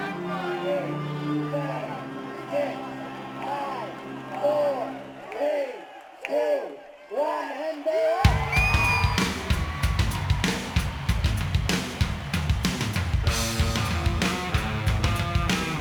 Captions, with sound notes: - Eight, seven, six, five, four, three, two, one and they're off! (crowd cheering) (rock music)